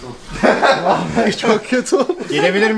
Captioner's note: laughter